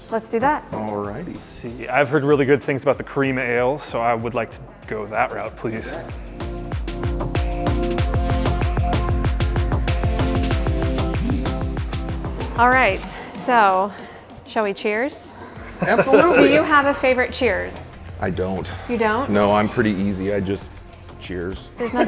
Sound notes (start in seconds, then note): 7.1 upbeat music; 15.4 laughing